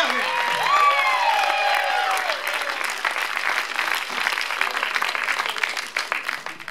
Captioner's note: applause